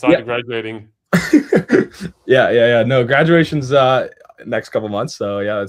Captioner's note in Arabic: ضحك